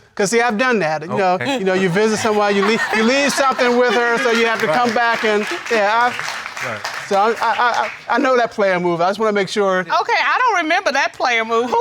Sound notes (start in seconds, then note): 7.2 stutters